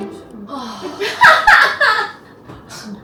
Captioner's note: deep sigh